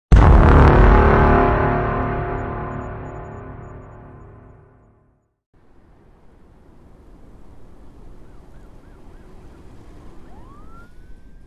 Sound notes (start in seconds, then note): 6.0 late night city street noises. A siren. Wind rustling the trees